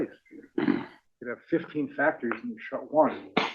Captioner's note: cough